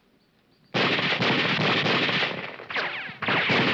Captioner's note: guns firing